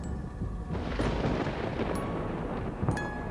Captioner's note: soft melodious music; thunder rumbling; thunder claps; soft melodious music; thunder rumbling